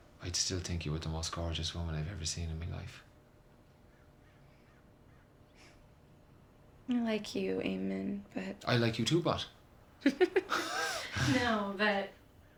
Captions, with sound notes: I'd still think you were the most gorgeous woman I've ever seen in my life. - I like you, Eamon, but. - I like you, too, but. (giggling) - No, but...